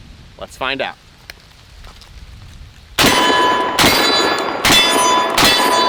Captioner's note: gunshots